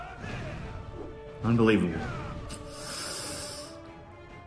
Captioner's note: sucks teeth